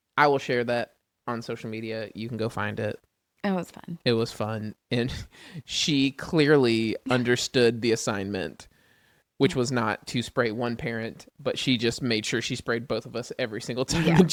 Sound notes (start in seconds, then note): 7.0 laughs; 13.9 laughs